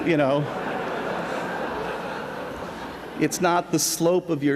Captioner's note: laughter